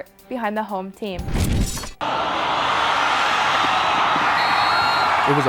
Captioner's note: loud cheering